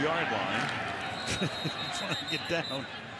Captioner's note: whistle blowing